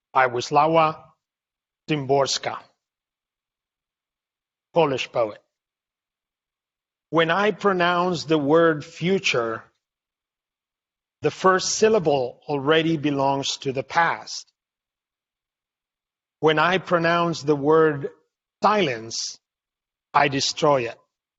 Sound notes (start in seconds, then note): none